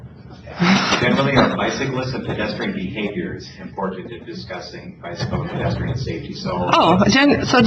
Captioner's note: moderator speaking in background